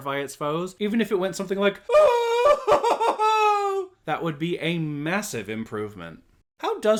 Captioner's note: example screaming